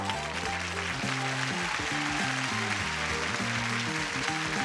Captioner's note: audience applause